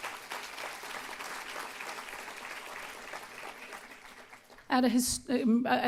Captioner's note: applause